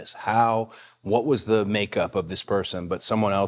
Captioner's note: none